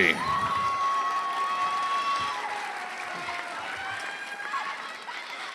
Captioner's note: cheering